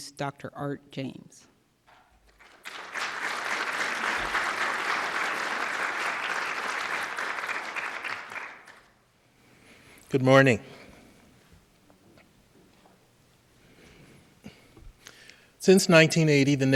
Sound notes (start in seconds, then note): 4.8 cheers and applause